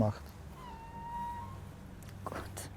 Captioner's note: geese noises in the background